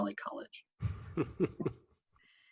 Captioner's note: chuckle